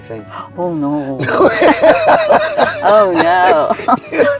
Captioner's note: laughing